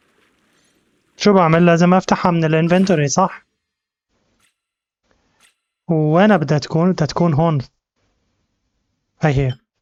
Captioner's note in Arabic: زقزقة الطيور